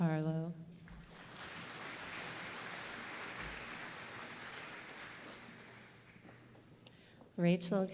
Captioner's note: applause